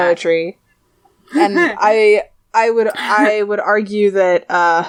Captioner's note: laughs